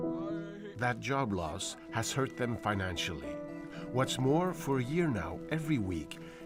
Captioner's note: speaking French